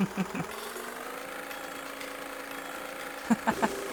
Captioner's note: boat sound ♫